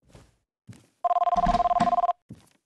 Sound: ringing Continues

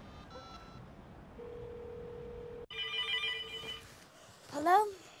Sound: phone dialing; phone ringing

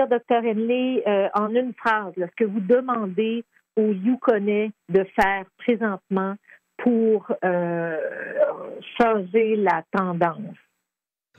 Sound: speaking French

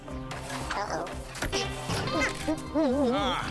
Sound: grunting; grunting in satisfaction

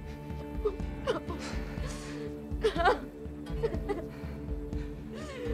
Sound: sobbing

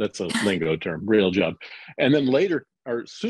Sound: chuckles

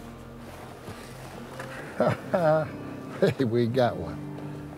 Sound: chuckles

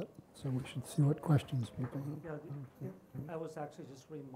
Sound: speaks softly

